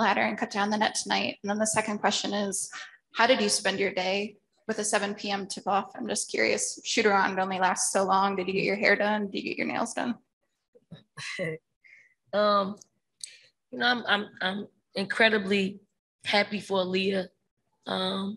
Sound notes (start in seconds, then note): 11.2 chuckles